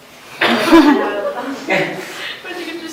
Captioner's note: laughter